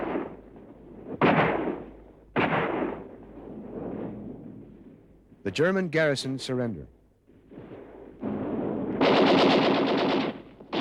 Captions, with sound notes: The German garrisons surrender. (gunfire)